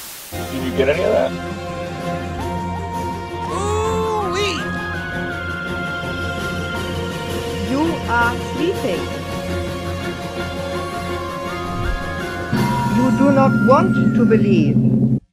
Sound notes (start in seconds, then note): 0.0 static fades; 7.6 erie foreign female voice